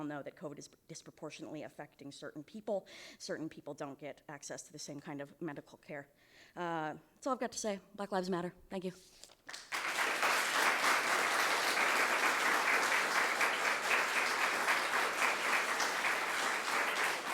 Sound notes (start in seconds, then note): 9.4 audience clapping